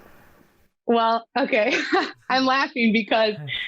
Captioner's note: laughing